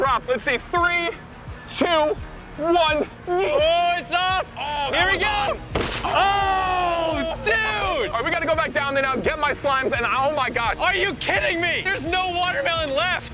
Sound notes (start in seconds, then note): 5.7 watermelons splats; 6.0 guys cheering